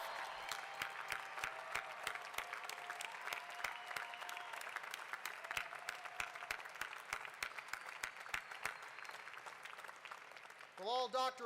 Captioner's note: applause